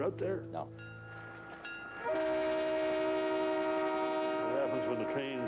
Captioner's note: train sounds horn